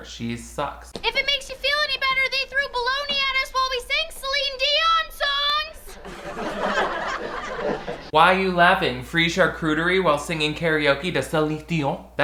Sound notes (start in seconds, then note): 5.9 students laughing